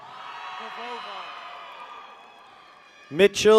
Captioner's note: people cheer